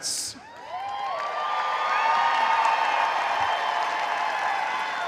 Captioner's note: audience cheering